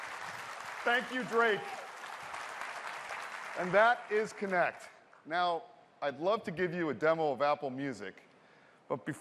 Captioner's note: cheers and applause